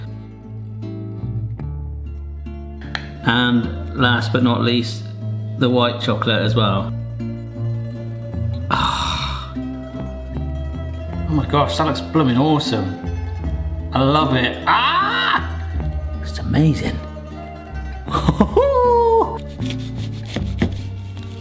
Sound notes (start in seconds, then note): 8.6 sighing; 14.6 yells; 18.1 laughing